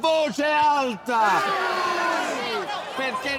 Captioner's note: all exulting